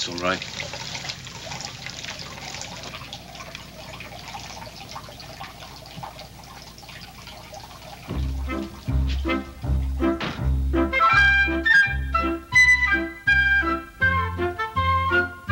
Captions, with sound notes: - That's all right. (water gurgling) (bright music)